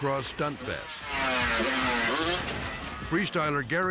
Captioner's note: bikes buzzing